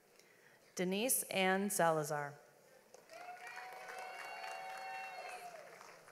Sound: audience applauds

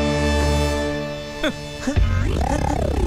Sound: chuckles

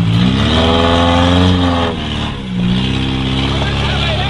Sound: engine revving; yelling

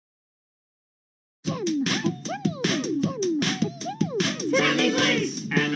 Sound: beatboxing intense

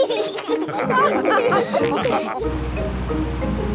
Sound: all laugh

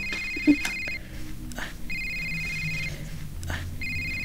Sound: phone rings

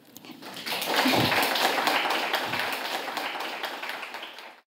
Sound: audience applauding

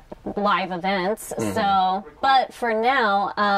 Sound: sounds of agreement

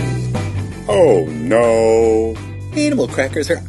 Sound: man's Low Voice

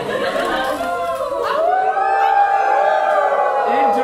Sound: audience howling like wolves; audience continue howling

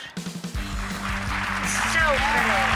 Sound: audience applause

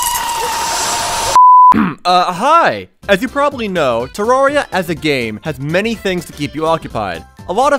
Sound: ahem

